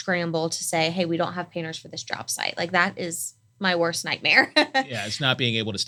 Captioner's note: laugh